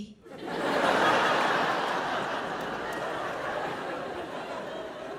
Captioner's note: audience laughs